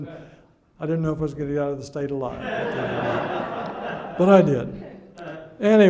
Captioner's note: audience laughs